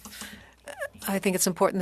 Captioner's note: speaking French